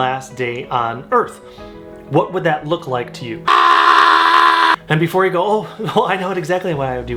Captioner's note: screams